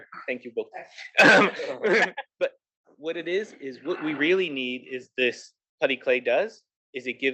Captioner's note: laugh